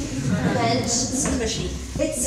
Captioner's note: laughing